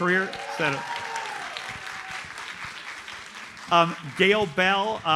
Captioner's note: audience cheers and applauds